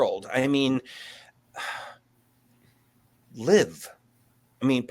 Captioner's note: sighs